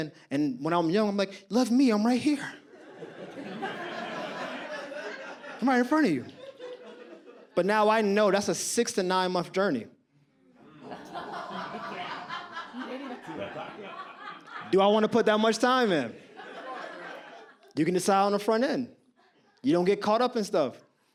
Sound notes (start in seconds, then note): 2.6 audience laughs; 10.6 audience laughs